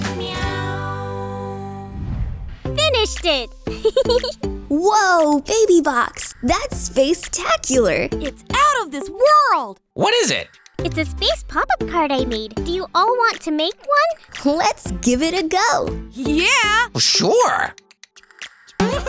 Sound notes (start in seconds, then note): 3.7 chuckles